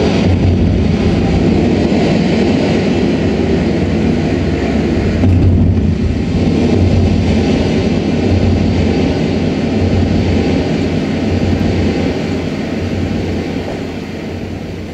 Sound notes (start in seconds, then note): 1.1 loud winds